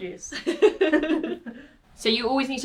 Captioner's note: laughing